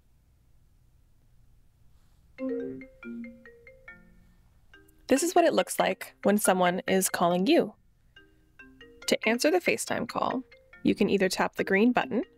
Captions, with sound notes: (ringtone) This is what it looks like when someone is calling you. To answer the FaceTime call, you can either tap the green button...